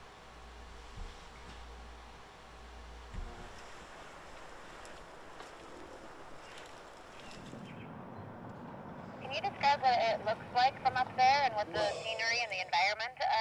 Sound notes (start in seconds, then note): 0.0 lab noise; 3.2 nature sounds